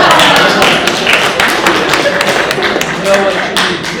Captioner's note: audience applauding